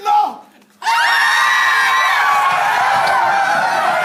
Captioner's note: screams